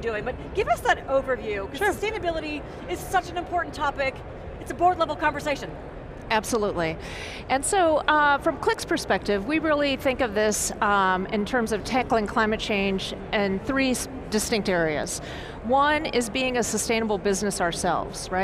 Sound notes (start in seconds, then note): none